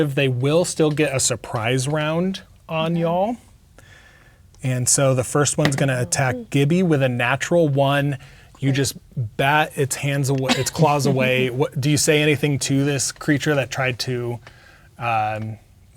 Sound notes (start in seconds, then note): 5.9 dice rolling